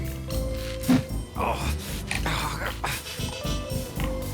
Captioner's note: whirring noise